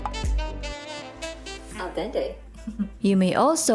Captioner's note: soft Chuckle